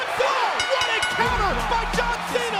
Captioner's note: bell dinging